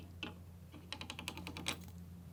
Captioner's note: clicking